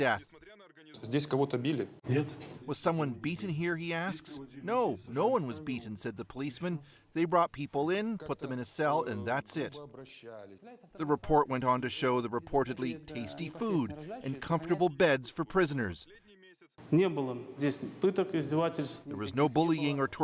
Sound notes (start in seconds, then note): 5.3 speaking russian